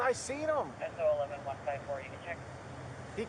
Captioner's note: radio chatter